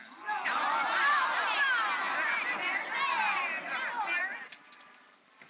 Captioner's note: crowd chatters angrily